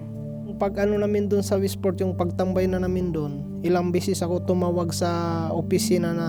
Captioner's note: speaking in foreign language